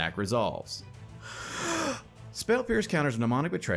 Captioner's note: narrator inhales